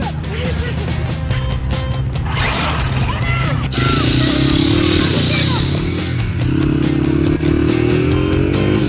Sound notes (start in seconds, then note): 4.0 motorcycle revving